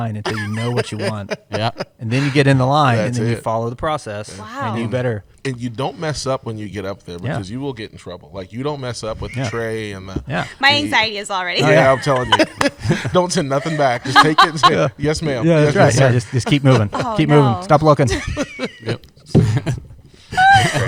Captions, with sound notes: until you know what you want," and then you get in the line then you follow the process, and you better. You don't mess up when you get there because you will get in trouble. You don't mess with the tray and-- -My anxiety is already-- [laughs] -I'm telling you. Don't turn nothing back, just take it and say, "Yes, ma'am." -That's right. -Just keep moving, stop looking. [laughter]